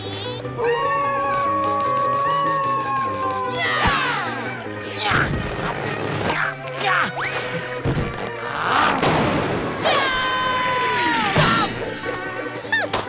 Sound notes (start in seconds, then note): 0.6 howling; 4.6 grunting; 9.8 screaming